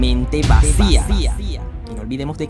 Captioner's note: echo